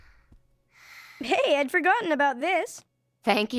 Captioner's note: deep breathing